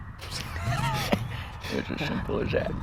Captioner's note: laughing